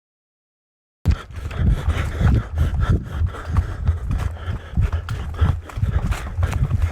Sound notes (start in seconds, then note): 1.0 breathing heavily